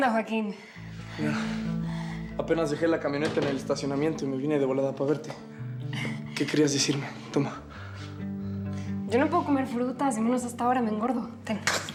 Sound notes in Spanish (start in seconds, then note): none